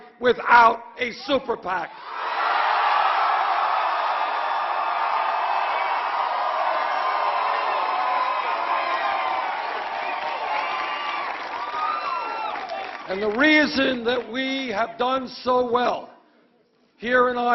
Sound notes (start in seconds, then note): 8.3 applause